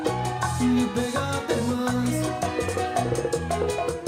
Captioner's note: audience cheering